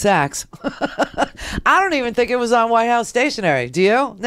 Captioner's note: laughs